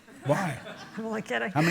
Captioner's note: laughter